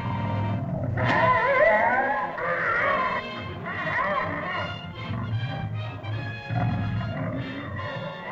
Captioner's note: suspenseful music; dinosaur yelps & squawks; suspenseful music